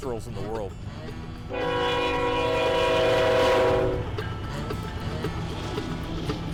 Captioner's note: horn